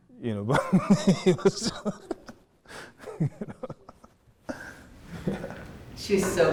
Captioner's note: laughing